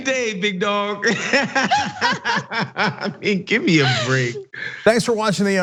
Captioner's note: laugh